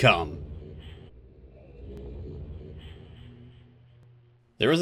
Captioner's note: age transition sounds